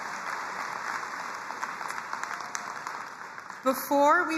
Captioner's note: crowd cheering and applauding